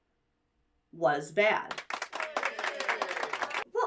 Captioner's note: audience claps